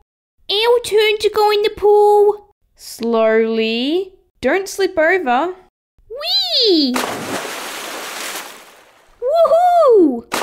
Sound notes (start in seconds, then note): 6.9 splash!